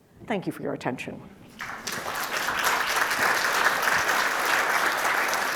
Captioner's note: attendees applauding